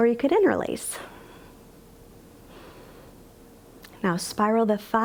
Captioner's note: inhales